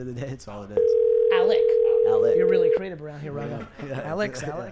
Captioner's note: voicemail message